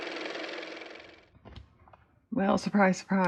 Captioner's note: car motor